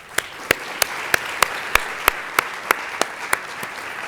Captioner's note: audience applauding